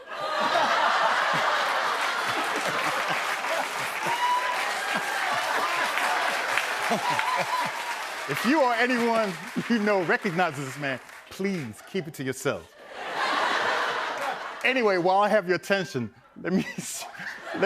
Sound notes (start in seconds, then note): 0.2 laughter and applause; 12.8 laughter